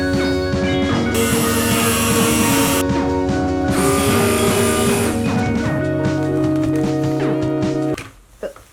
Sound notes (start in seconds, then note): 1.1 blender whirring